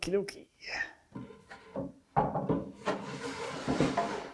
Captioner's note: wood on wood clunking; drawer rattling